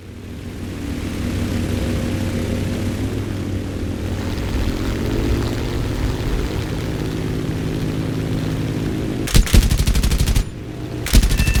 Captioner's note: aircraft Engines ,Gunfire, Flying Sounds